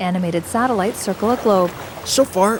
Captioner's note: waves crashing